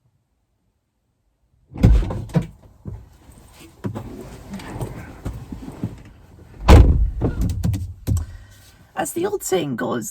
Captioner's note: car Entering Noises